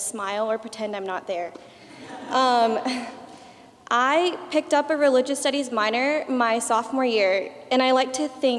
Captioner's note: laughter